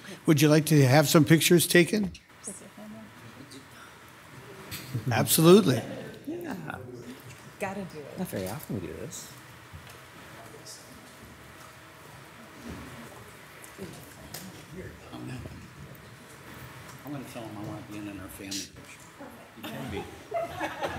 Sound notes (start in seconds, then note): 12.0 people softly chattering; 20.8 people softly laughing